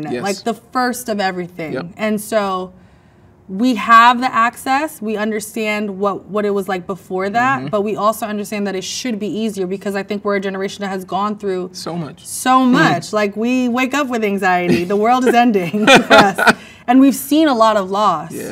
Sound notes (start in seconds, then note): 14.6 man laughs